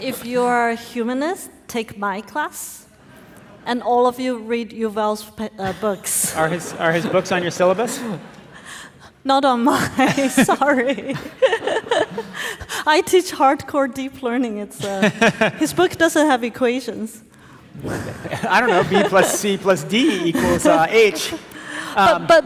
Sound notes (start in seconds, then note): 17.8 audience laughing